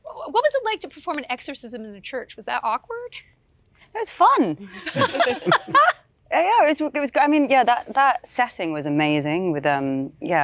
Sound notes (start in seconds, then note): 4.8 all laugh